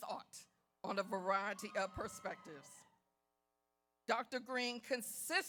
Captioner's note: audience cheers